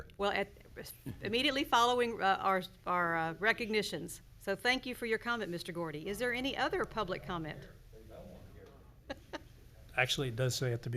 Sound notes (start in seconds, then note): 9.1 laughs